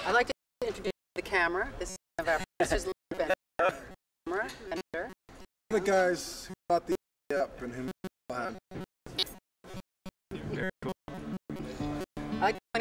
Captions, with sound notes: and who made it all happen. (CHUCKLING) Very cool. I'd like to point out that our cameraman is wearing a "stop global warming" bracelet. That's right, can you-- can you turn that around? Okay, there you go.